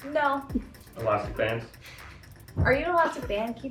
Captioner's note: chuckles